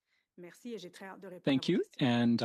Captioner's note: speaking French